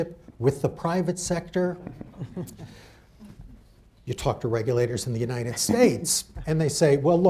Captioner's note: laughter